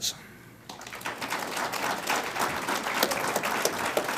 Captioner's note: audience applauds